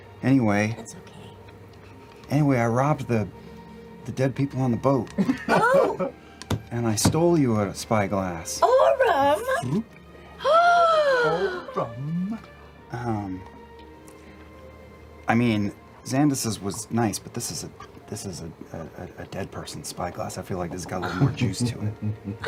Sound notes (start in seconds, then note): 5.2 laughs; 11.0 gasps